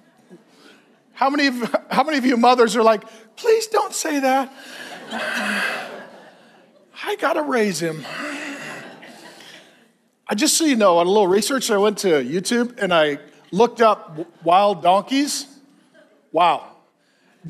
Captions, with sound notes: (congregation laughs) How many of you mothers are like, please don't say that. (congregation laughs) I gotta raise him. (sighs) Just so you know, a little research, I went to YouTube and I looked up wild donkeys. Wow.